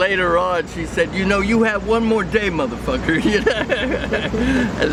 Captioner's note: laughs